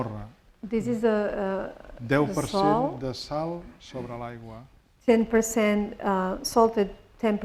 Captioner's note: speaking spanish; spanish